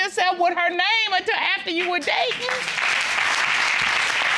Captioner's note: audience applauds